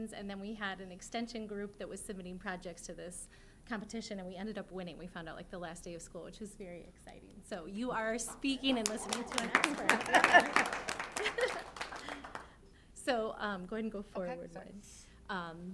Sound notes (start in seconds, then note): 8.2 applause; 10.0 laughter